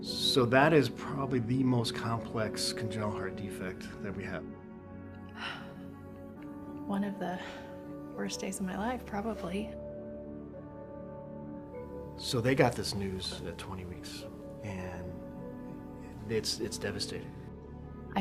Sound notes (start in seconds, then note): 5.3 sighs